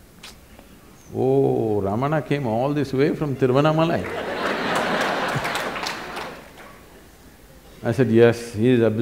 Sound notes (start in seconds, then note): 4.0 laughter/Applause